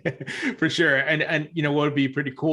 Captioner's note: laughs